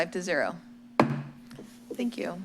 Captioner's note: gavel bangs